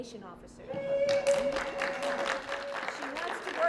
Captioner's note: applause